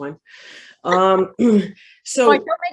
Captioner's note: clears throat